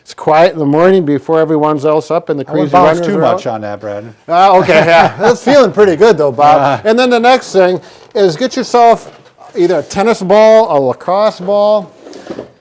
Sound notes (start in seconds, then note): 4.4 laughing